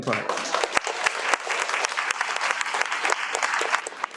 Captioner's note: audience applauds